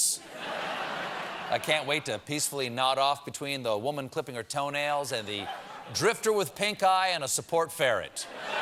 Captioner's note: laughter